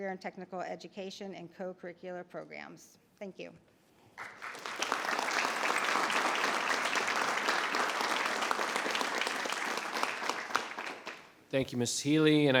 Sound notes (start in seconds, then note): 4.2 audience applauds